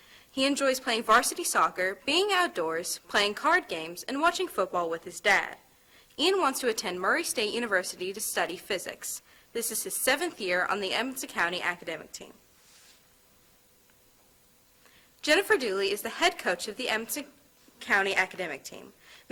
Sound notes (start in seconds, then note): none